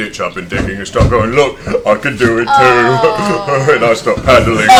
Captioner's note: laughs